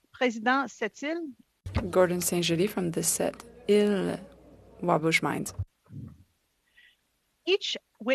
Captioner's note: speaking French